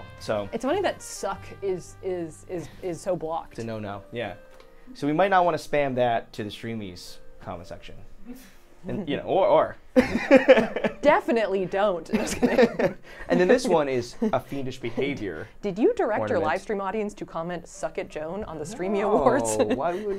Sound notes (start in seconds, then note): 9.7 laughing